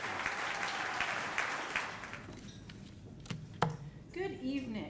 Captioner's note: audience applauding